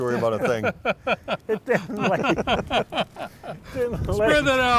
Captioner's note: laughter